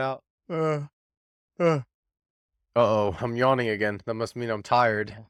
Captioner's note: yawn